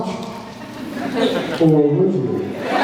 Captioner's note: laughs; cheers